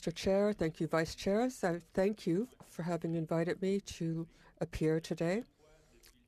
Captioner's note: speaking French